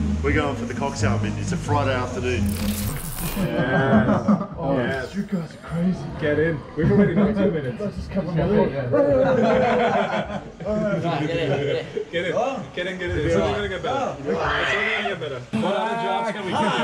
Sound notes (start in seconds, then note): 8.9 laughing